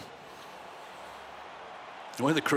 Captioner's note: crowd cheering